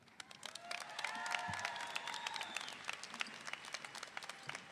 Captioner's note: audience applauding